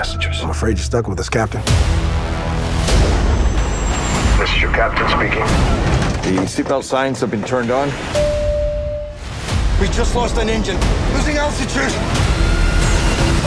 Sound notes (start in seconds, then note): 1.7 dramatic music playing; 8.2 ding; 12.0 screaming